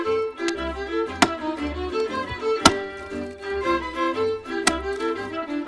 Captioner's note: ax chopping